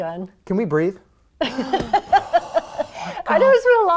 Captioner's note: laughter